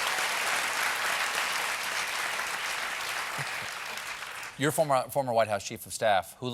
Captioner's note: cheers and applause